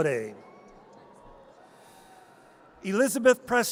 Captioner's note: audience cheers